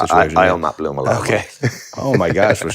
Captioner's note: both laugh